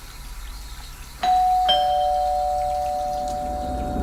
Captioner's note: doorbell ringing; suspenseful music